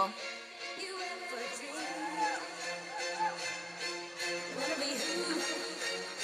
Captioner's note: audience cheers